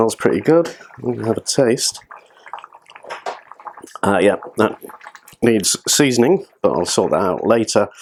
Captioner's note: slurp